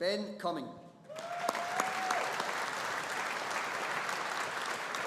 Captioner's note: audience applauding